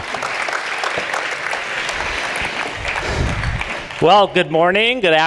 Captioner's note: audience applauding